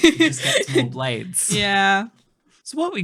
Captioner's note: laughing